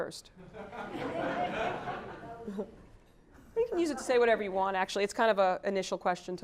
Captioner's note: laugh